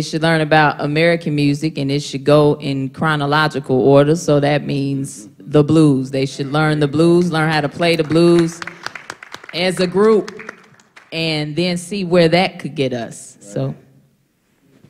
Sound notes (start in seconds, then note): 7.1 applause